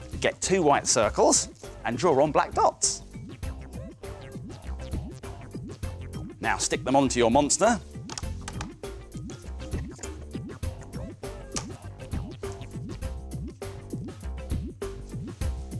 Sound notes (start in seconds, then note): none